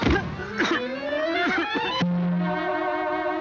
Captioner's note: cat coughing